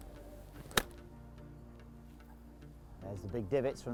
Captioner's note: club hitting